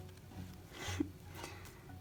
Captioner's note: laughs